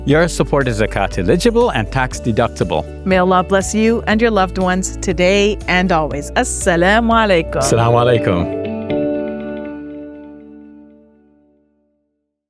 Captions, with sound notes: - Your support is account eligible and tax deductible. - May Allah bless you and your loved ones today and always. (both speaking non-English language) (inspiring music)